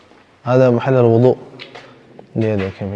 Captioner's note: Arabic